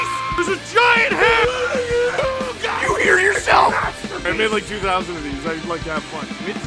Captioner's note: Harry potter screaming; screaming